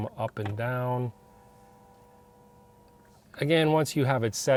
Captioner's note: steering wheel whirring